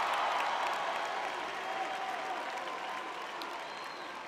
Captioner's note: audience cheering